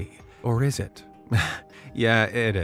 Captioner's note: chuckles